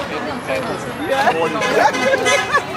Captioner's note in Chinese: 喇叭聲; 笑聲